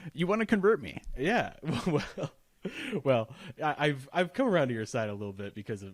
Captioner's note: laughs